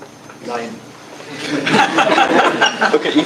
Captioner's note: laughter